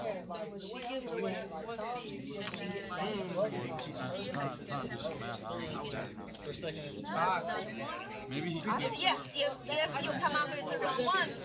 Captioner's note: students murmur